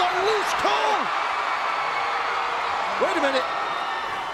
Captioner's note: crowd cheering